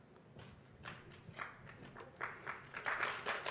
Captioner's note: applause